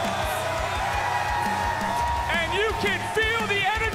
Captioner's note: crowd cheers